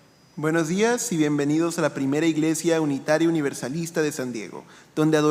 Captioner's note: speaking in foreign language